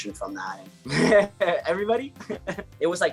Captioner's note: laughs